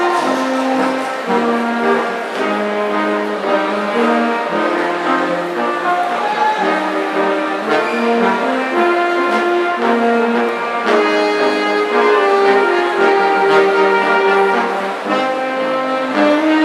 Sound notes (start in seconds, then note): 0.0 audience applauds; 5.6 audience cheering